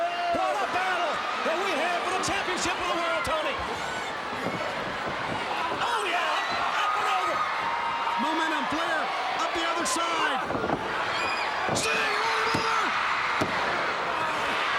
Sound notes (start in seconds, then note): 4.4 crowd cheering; 10.4 wrestlers thudding on ring; 13.1 countdown thudding; 14.5 crowd cheering